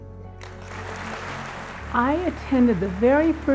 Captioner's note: audience applauding